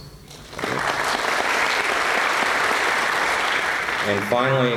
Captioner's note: applause